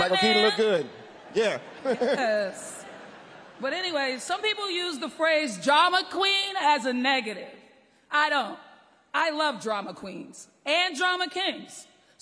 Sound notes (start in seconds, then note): 1.0 laughter